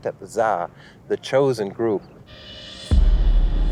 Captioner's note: speaking Ancient Egyptian language